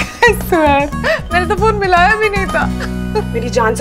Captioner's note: laughs